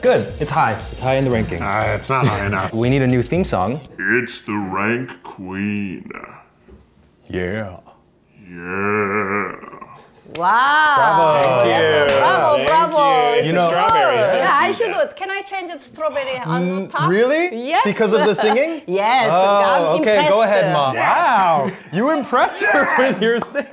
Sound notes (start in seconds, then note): 11.1 clapping